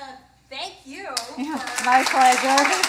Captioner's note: applause